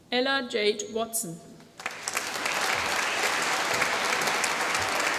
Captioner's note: applause